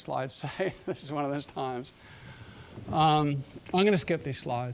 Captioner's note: chuckling